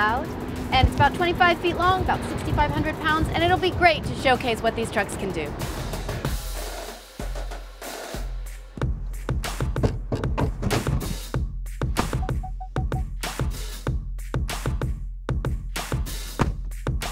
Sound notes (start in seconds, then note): 12.1 beeping